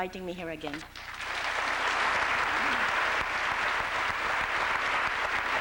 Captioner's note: applause